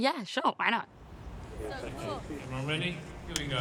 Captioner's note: indistinct chatter